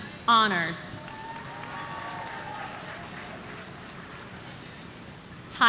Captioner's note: audience cheering